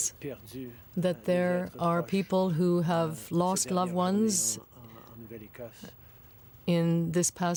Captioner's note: speaking French